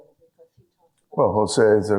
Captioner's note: speaks faintly